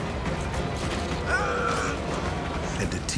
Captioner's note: boy groaning